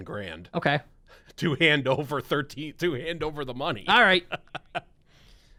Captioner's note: laughs